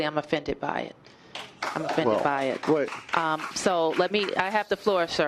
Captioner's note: applause